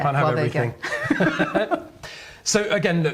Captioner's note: both laughing